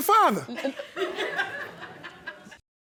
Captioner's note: audience laughing